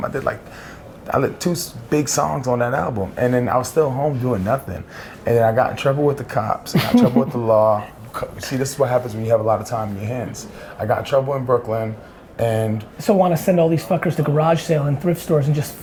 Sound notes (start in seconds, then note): 6.7 laughs